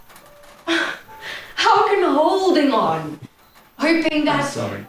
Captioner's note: Carrie's breath shudders